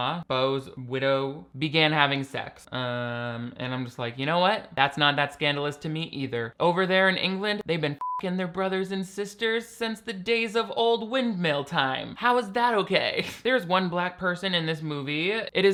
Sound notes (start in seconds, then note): 8.0 beep; 13.1 laughs